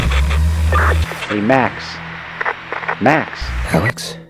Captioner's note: walkie talkie chirp